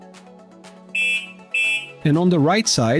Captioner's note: electric Horn